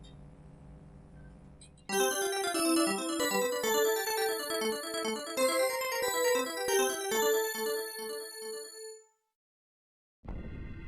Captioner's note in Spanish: Sonido de NEO-GEO